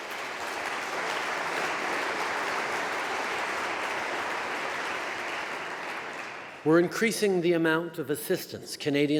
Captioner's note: applause